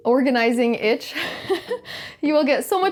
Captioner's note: laughs